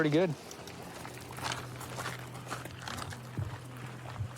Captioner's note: footsteps crunching